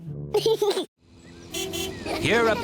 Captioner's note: giggles; car horn honks